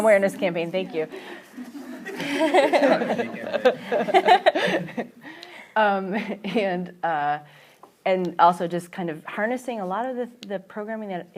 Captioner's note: laughter